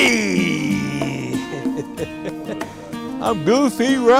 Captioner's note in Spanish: risas